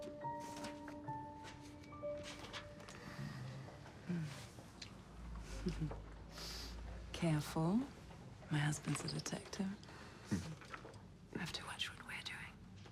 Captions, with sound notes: - Mm. (chuckles) Careful. My husband's a detective. (husband chuckles) We have to watch what we're doing.